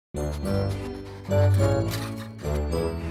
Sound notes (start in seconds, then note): 0.4 pencil scratching paper